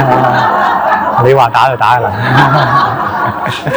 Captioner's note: 笑聲; laughter; 笑聲遍滿; laughter all around